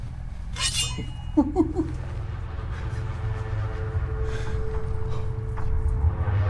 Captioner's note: machete scrapes; Lennox giggles